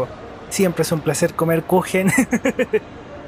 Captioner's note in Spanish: risas